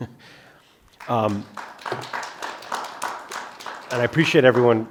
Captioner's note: audience applauds